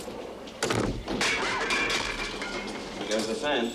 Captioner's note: clattering